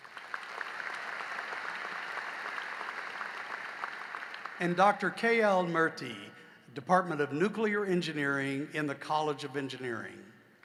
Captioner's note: applause